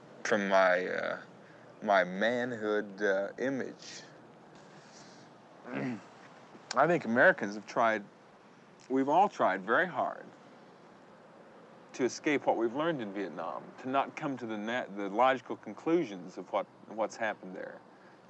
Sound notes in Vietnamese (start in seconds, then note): 5.6 Hắng giọng